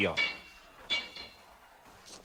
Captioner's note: whispers